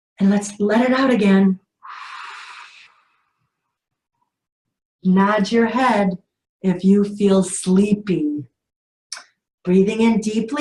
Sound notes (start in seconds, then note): 1.8 inhales; 1.8 exhales